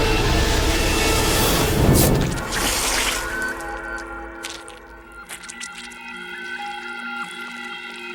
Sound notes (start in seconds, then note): 1.9 knife slashes; 2.0 blood squelches